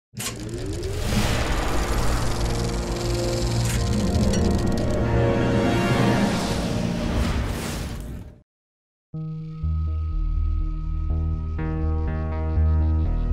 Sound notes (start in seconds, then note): 0.2 projector chattering; 9.2 suspenseful music